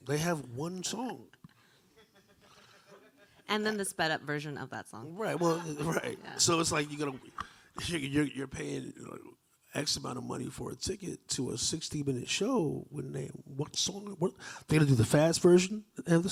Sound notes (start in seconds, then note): 1.9 laughter from audience; 1.9 chuckling; 5.3 laughter from audience